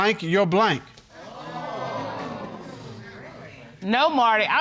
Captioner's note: audience gasps